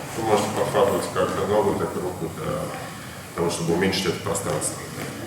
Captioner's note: speaking in a foreign language